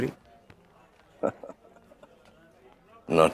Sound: laughs

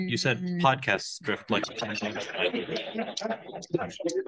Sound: laughs

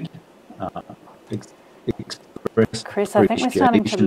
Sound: audio distorting

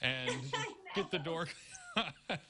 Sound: laughter

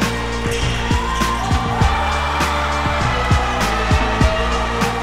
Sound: cheering; upbeat music

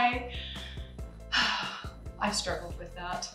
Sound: sighs

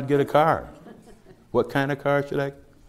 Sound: slight laughter

